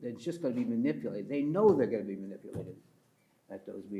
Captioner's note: pats table